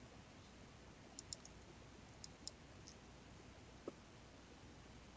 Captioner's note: mouse clicking